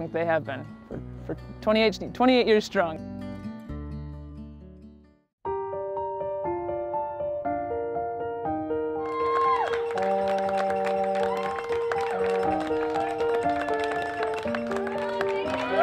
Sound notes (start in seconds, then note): 6.3 gentle piano music; 9.0 crowd cheering